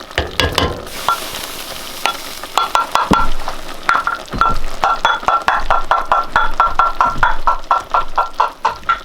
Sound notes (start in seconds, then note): 0.1 utensil banging on pot; 0.6 utensil banging on bowl